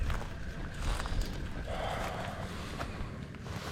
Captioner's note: sigh